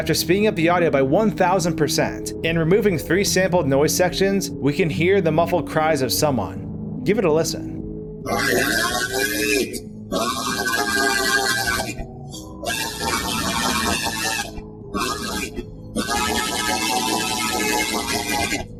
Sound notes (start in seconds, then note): 7.8 screaming